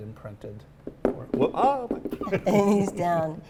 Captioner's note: laughs